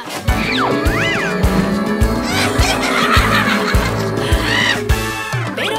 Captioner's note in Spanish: Risas